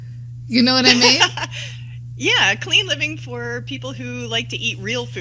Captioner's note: laughter